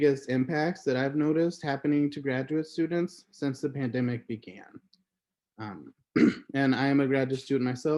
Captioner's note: clears throat